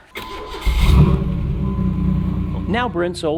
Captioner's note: engine rumbles